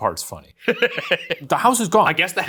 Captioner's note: laughing